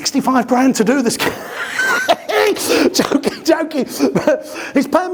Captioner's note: laughs hysterically